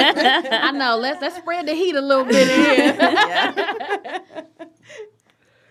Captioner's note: laughter; laughter